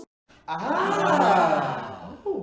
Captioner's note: crowd aahs